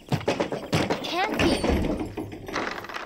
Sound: knocks on door

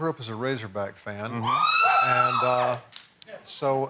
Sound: cheering

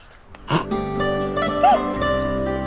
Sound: Rimi laughs

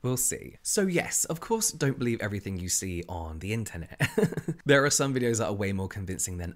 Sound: laughs

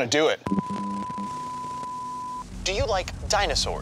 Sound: static beeping

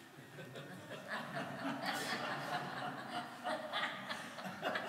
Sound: audience laughs

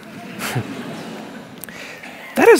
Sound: laughter

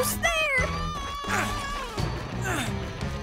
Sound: grunting

